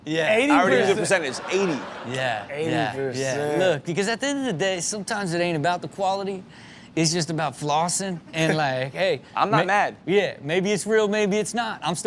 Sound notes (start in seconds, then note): 0.5 crowd laughs